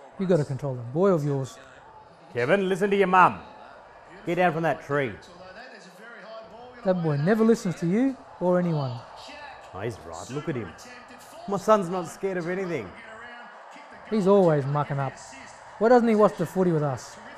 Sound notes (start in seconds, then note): 2.4 shouting